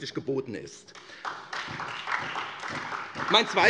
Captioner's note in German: Beifall SPD und vereinzelt Freie Demokraten